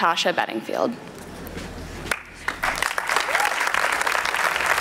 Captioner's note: applause